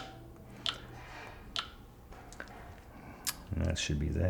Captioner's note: tablet clicking